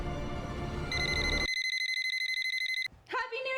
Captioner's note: Kennedy's Phone's Alarm Goes Off